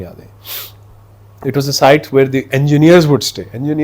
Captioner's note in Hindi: नाक से की जाने वाली आवाज़